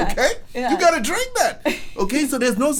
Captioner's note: laughs